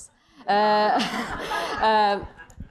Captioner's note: laughter